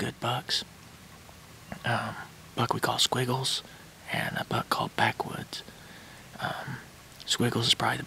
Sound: whispering

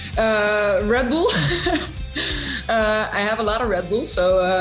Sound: laughs

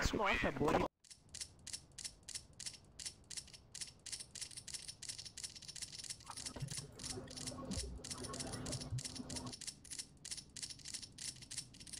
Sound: cleck cleck cleck

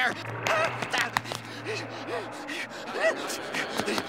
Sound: panting

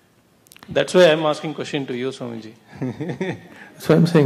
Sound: laughs

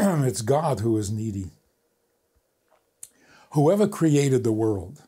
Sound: none

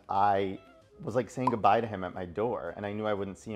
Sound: graphic pops

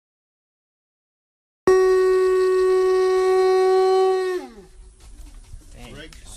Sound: conch shell sound

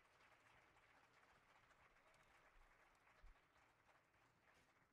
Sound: audience applauding

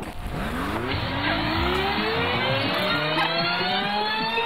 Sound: audio tape fast forwarding

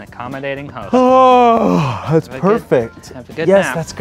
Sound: yawning

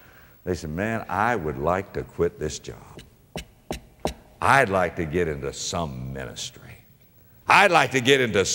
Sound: tap

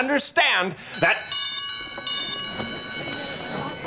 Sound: bell ringing

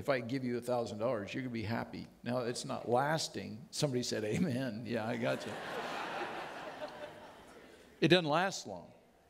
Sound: audience laughing

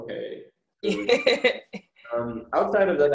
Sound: laughs

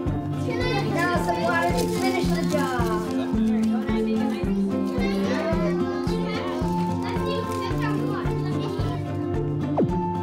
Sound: ambient classroom sounds

